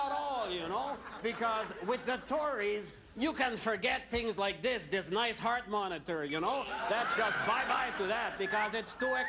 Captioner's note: laughter